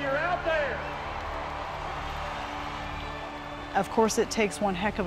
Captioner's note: crowd cheering